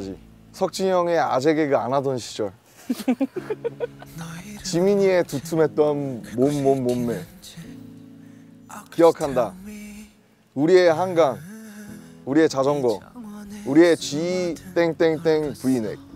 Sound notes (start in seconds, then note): 2.8 crack up